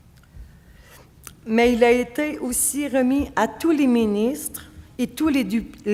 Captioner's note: speaking French